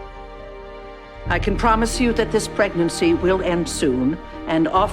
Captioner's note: voiceover